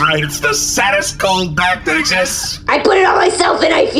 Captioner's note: screaming